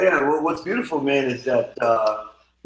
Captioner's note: laughing